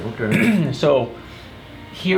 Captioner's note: clears throat